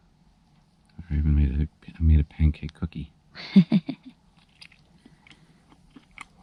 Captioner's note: laughing